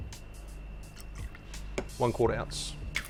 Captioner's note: liquid pours